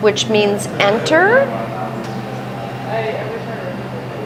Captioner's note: laughs